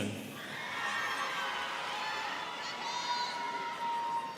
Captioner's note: students cheering